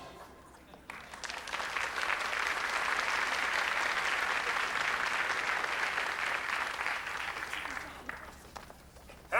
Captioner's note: applause